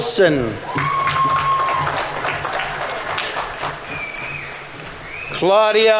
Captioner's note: audience members cheering; audience applauding